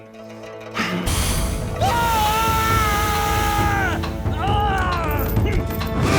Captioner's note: screaming